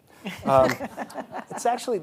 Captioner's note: hosts laughing